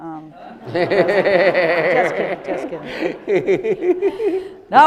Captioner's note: audience laughing